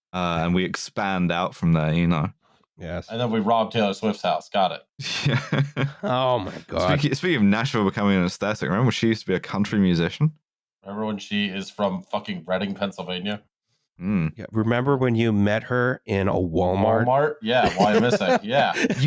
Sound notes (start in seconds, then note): 5.0 chuckles; 17.5 laughs